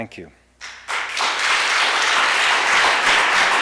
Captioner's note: applause